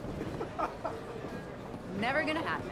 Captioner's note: Mark laughs